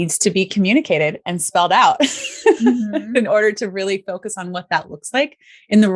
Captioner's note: laughs